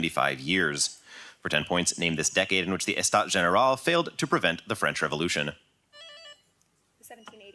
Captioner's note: buzz